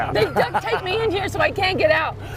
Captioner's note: laughter